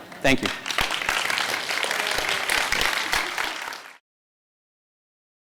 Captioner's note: audience applause